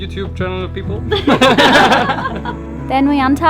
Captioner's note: laughing